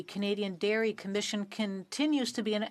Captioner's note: speaking French